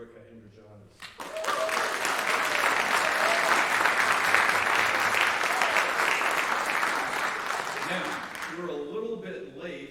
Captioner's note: applause